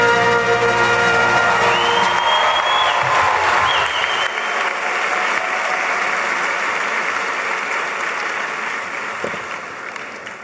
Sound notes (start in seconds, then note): 1.3 applause